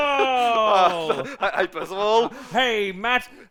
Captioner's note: laughs